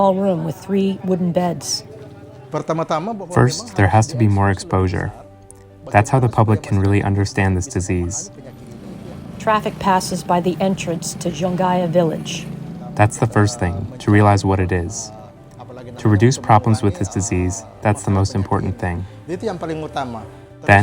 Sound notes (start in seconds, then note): 0.3 people speaking Bahasa Indonesia; 11.2 traffic noises